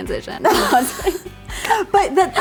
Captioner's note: both laugh